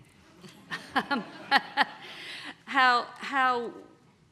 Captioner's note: laughter